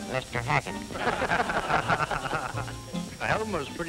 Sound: laughter

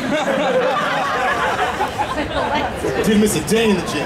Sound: audience laughing

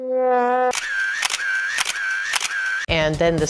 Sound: camera shuttering

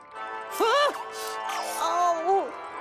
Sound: Cosmo gasping; gasping

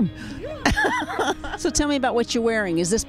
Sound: laughs

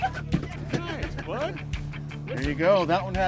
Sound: laughing

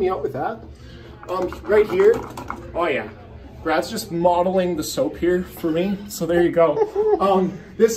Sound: laughing

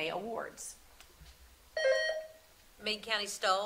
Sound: buzzer sounding

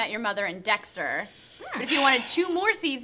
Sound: sighs deeply

